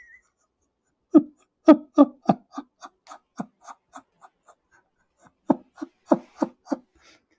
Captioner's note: Ketawa